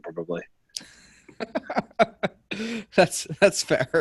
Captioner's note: men laughing